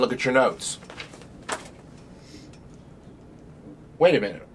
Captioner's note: pages rustling